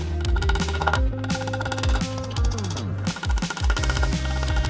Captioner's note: drill whirring